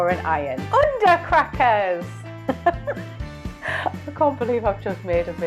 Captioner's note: laughs